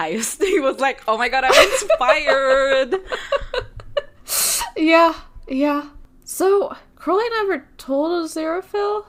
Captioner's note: both laugh; both laughing